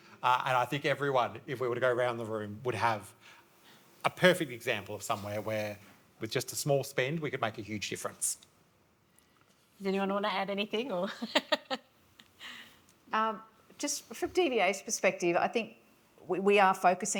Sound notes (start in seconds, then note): 11.1 laughs